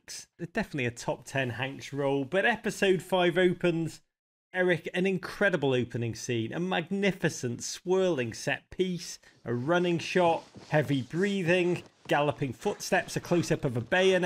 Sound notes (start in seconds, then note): 10.5 man breathing heavily